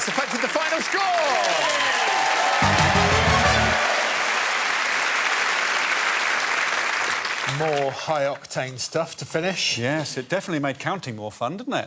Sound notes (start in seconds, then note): 3.9 cheers and applause